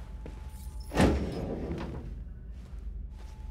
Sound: door slams

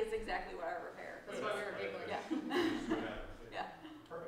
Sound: laughs

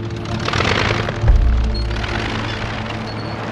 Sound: engine rumbling; wheel squeaking

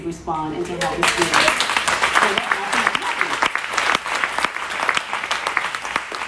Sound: applause drowns out speaker

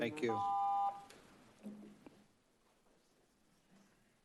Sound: beeping

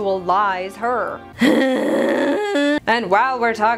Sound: disgruntled Whining

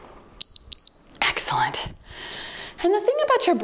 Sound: timer beeps

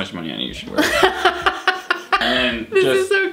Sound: laughs

